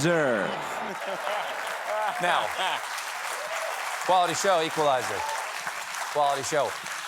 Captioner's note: applause